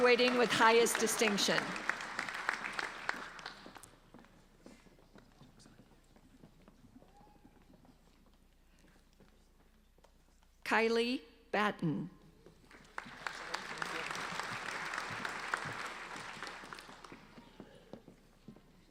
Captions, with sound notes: Graduating with highest distinction. (applauding) Kylee Button. (applauding)